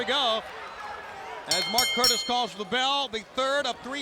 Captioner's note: bell ringing